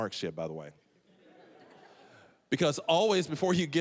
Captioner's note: audience laughing